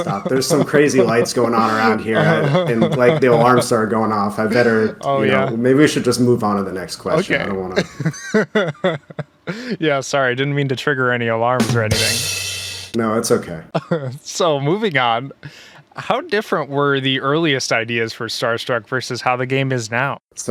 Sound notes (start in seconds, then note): 7.1 laughs; 12.5 laughs